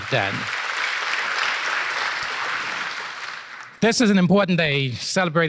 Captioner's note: applause